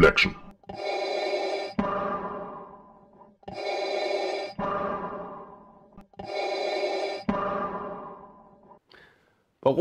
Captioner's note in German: Darth Vader Atemgeräusche